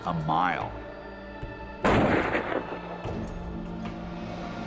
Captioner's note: shot